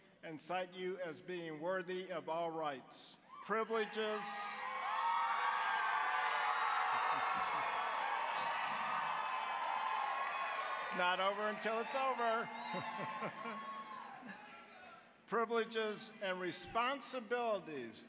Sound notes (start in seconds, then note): 3.6 cheering, applause; 12.5 chuckling